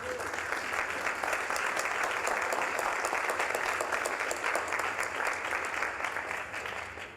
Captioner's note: applause